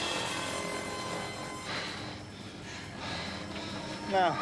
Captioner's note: heavy breathing